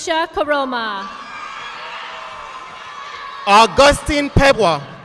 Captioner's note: audience applauding